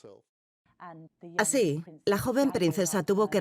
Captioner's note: voiceover